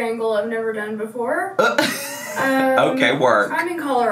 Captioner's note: laughs